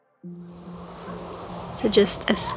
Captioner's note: birds chirping